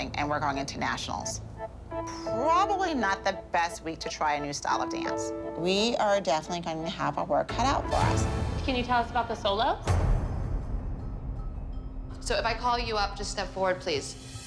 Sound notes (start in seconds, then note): none